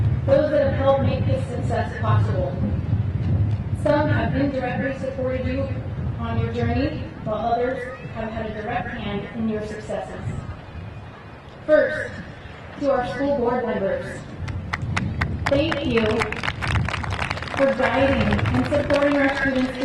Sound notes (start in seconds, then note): 16.5 crowd applauding